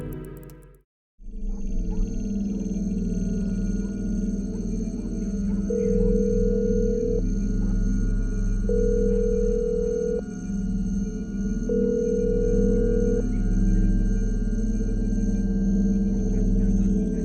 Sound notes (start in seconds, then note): 5.9 line ringing